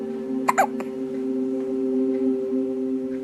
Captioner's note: hiccups